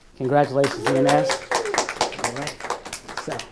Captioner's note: audience applauding; audience cheering